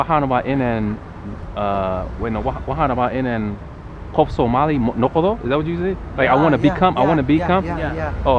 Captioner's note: somali